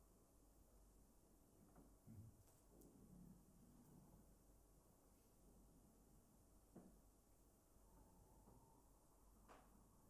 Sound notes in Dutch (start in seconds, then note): none